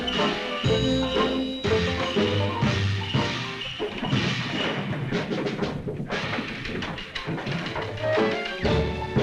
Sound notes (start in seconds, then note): 3.8 fighting sound